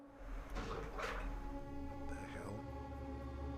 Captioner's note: tense music fading; water gurgling